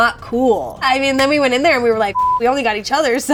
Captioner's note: beep